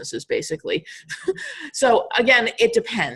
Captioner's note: laughing